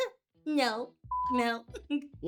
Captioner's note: beep